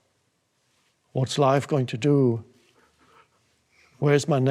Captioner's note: breathes uneasily